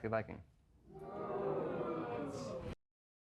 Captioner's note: audience jeering